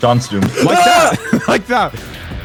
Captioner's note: laughs